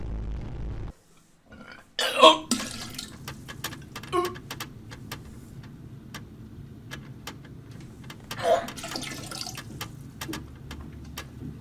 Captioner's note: throwing up